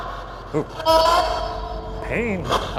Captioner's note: voices shriek; voices shouting